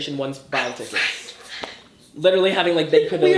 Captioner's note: Tana gasps